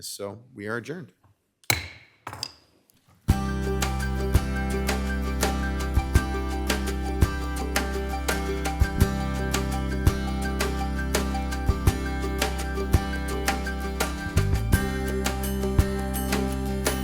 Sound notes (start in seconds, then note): 1.7 gavel pounding; 3.1 bright music